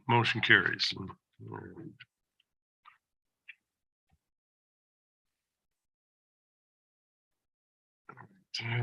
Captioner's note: silence